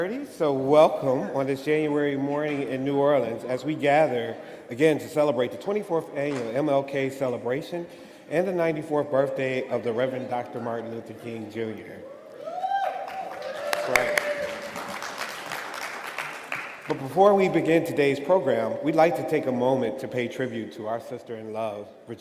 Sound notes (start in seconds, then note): 12.0 crowd cheering; 12.5 crowd applauding